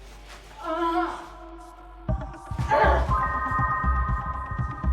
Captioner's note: Jane groans